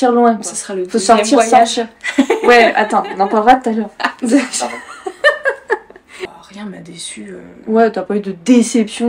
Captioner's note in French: rires